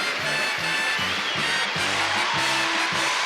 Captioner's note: cheering